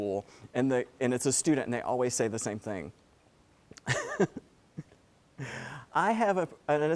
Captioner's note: laugh